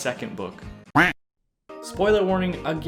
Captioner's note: Macintosh duck quack